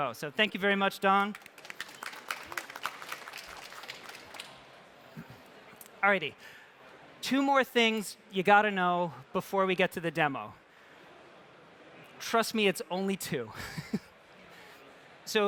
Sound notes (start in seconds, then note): 1.1 applause